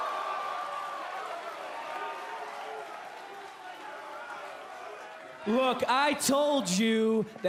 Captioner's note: cheers & applause